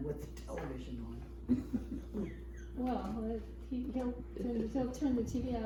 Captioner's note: laughs